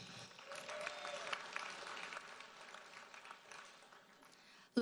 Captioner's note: audience applauds